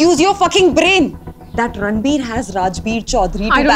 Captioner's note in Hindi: none